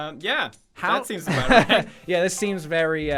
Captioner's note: laugh; laughs